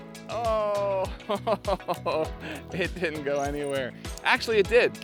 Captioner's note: laughter